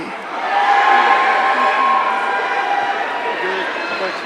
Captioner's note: audience cheering